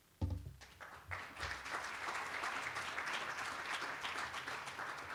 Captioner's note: applause